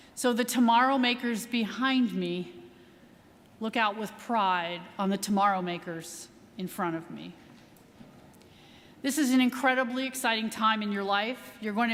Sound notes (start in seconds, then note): none